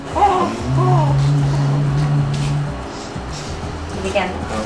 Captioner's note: baby cooing